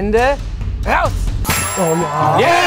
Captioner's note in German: Jubel, Applaus